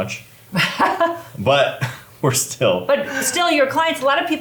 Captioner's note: laughs